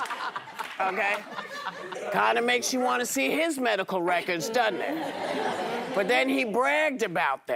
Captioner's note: laughter